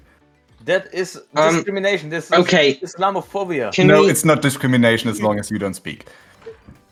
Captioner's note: rambling